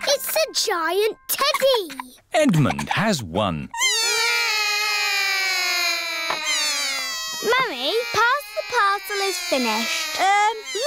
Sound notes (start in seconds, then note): 4.1 all cry